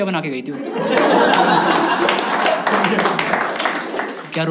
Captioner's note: laughs